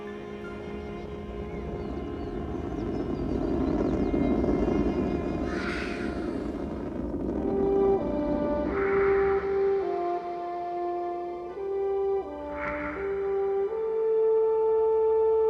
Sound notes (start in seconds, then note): 1.2 rocket engine revving loudly; 8.2 dramatic music playing